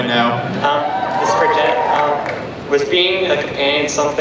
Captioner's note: voiceover